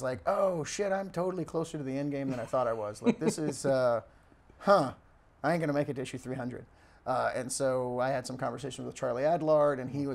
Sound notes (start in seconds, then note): 2.2 chuckles